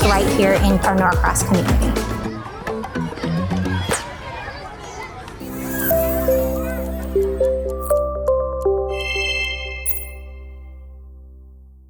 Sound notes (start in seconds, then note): 1.7 park ambience; 5.4 bright music